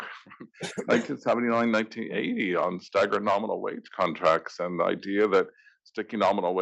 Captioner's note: laugh